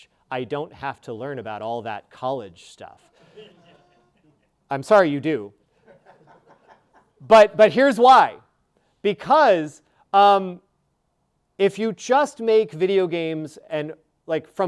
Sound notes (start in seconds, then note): 3.2 audience laughing